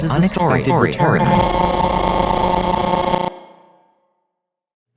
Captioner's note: audio glitching